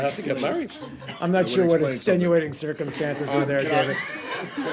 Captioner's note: laughter; laughter